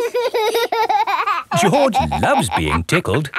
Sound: laughing

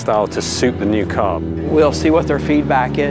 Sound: engine purring

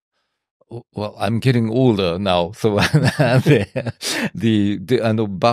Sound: laughs

